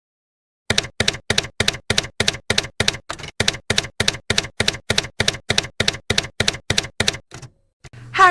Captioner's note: typewriter keys clacking